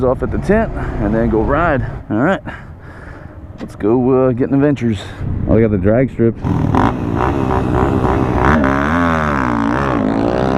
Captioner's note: motorcycles revving